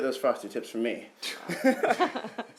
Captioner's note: laughter